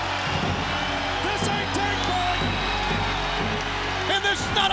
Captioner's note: audience cheering